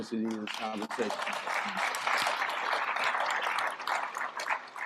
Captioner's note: applause